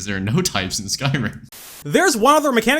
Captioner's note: static